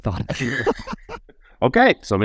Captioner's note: laughing